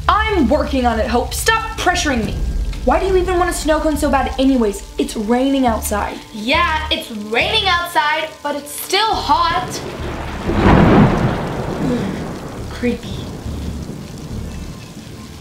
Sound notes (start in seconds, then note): 9.1 thunder booms; 9.7 shudders